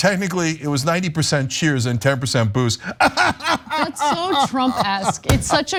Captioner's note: laugh